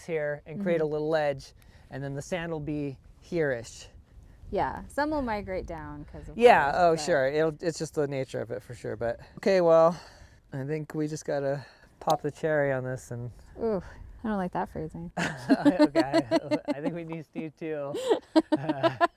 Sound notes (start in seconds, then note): 15.2 laughing